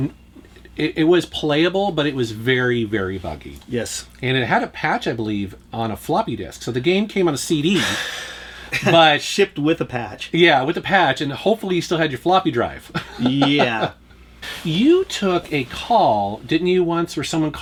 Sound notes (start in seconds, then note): 7.8 sighs; 13.0 laughs